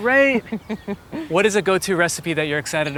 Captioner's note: Gwyneth chuckling